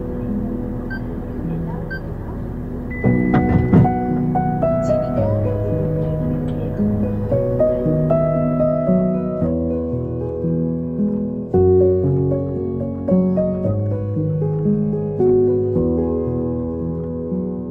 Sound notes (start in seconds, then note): 5.7 drone